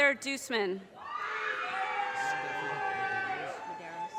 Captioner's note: audience cheers and applause